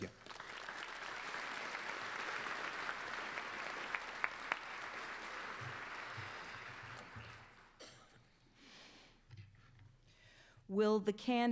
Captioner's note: applause